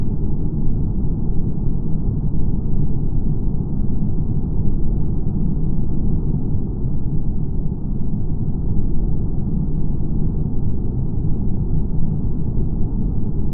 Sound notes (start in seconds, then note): none